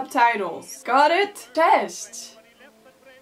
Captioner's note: switches to Polish